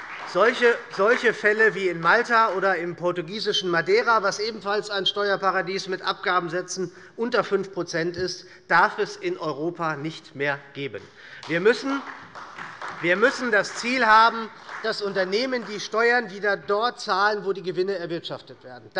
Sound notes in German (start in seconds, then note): 0.0 Beifall bei der SPD und bei Abgeordneten der LINKEN; 11.3 Beifall bei der SPD